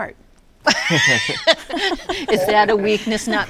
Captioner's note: laughs